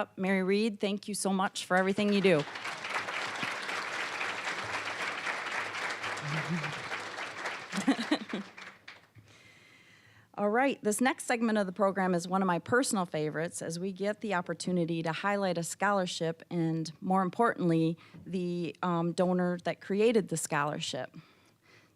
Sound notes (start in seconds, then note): 1.6 applause; 7.8 laughing